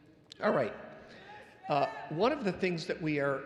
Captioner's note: audience yelling